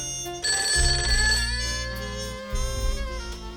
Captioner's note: phone ringing